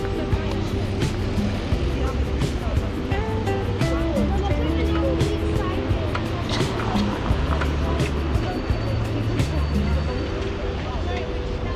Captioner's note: wind Blowing